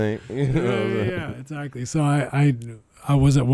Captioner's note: laughing